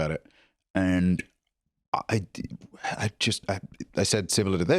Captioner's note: stammering